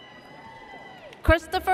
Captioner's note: audience cheers